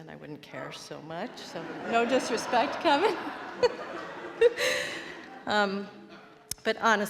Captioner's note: laughs